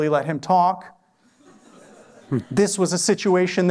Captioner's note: laughter